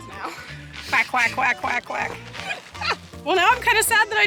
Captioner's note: quacks